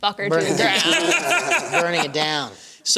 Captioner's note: laughing